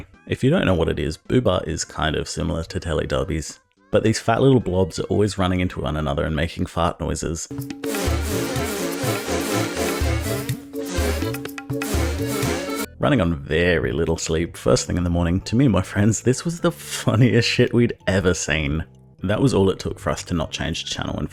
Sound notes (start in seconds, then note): 7.9 fart noises intensify